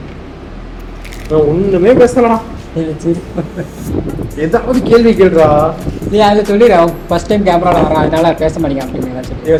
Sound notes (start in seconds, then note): 2.8 laughing